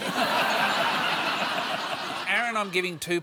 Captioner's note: laughter